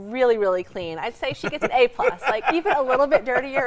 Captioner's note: laughs